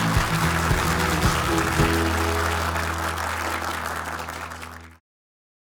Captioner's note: upbeat music; audience applauding